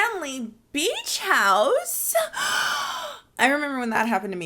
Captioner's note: gasping